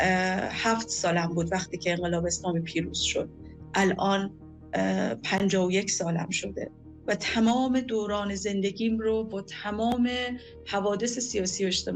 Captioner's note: speaking non-english